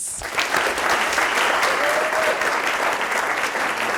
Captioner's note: audience applause